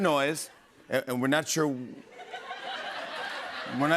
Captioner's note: laughter